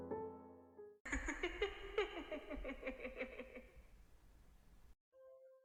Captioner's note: laughs